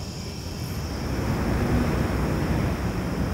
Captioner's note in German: Grillenzirpen, Straßenlärm